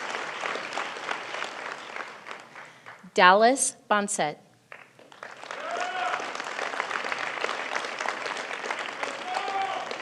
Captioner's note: applause